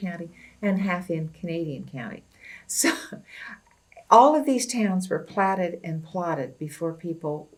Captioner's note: laughs